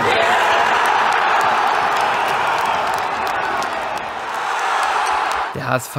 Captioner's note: Torjubel